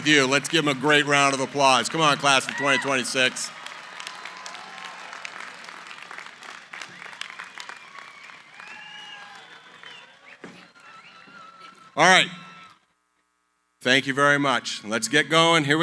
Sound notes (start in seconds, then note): 3.6 cheering